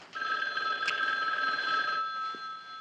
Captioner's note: Telefon çalıyor